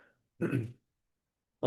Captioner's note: clears throat